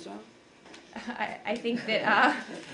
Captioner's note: laughter